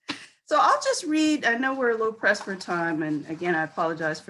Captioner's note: laughs